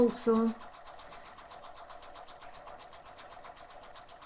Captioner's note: sewing machine humming